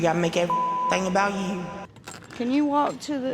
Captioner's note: beep